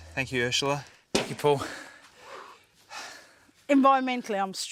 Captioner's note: both pant